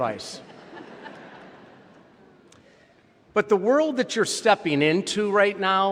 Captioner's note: laughter